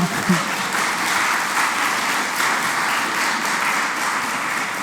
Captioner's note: applause